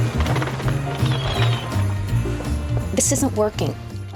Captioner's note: seagulls squawking